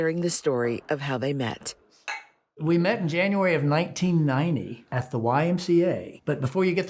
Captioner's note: glasses clink